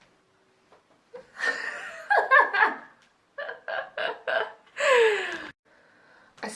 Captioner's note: laughs